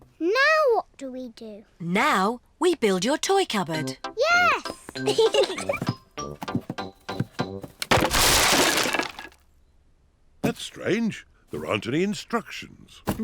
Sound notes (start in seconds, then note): 5.0 both giggle